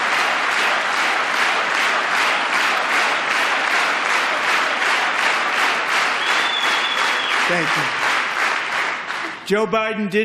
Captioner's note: applause